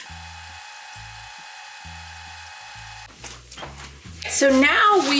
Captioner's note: tape fast forwarding